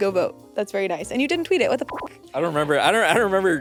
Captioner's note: beep